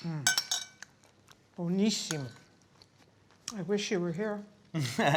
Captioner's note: speaking italian; laughing